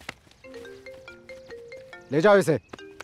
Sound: phone ringing

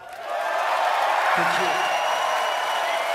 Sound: audience applauds

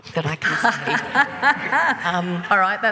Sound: laughing

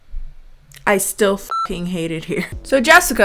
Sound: beep

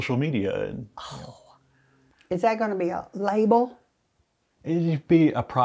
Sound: groaning sound

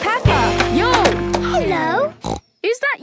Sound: snorts

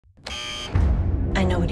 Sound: prison buzzer

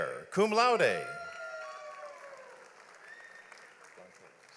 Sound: audience applauds

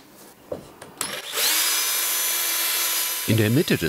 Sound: whirring

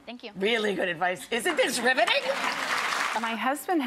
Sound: crowd claps

